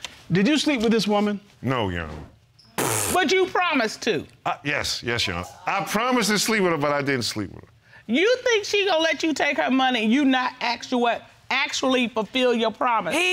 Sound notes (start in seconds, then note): 2.7 blows raspberry